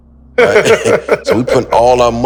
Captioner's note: Maverick laughs